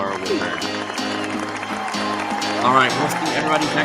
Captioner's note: crowd cheers